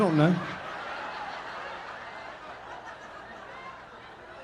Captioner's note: audience laughing